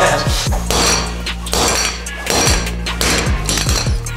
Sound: banging; upbeat music

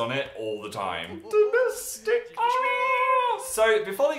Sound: fake crying

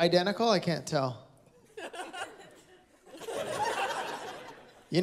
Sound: laughter

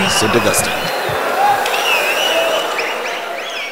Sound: wild applause and cheering for 22 seconds

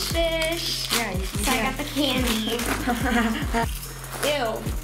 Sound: laughs

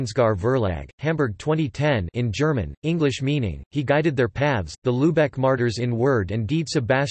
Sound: in German

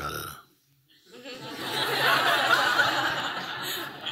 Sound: laughter

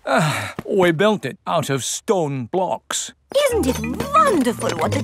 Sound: sighs

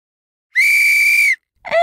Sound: whistle

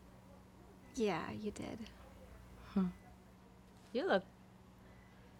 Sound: none

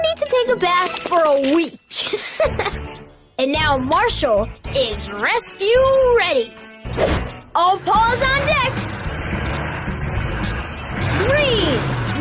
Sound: laughs

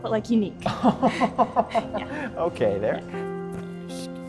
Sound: laughs

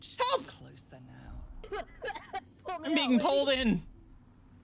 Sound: choking

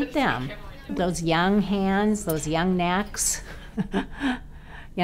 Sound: laughs

